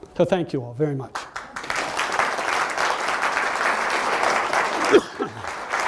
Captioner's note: audience applauds